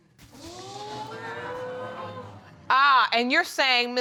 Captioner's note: audience exclaiming